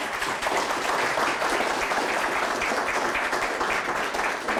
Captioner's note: audience applauding